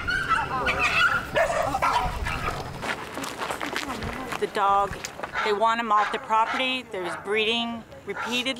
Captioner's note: dogs barking